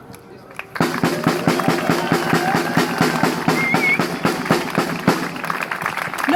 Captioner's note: applause